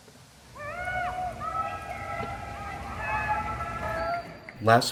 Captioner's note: chanting